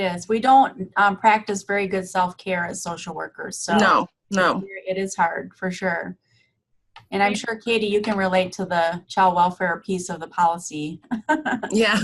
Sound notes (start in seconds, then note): 10.6 laughing